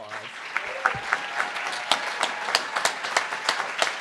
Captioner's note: cheers